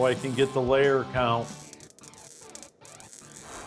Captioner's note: crackling